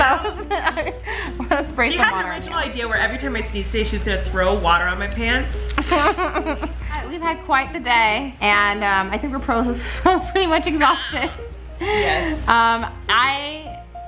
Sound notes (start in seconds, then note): 5.7 laughing